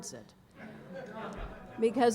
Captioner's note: laughter